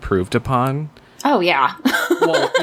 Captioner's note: laughs